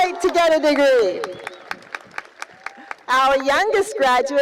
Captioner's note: cheering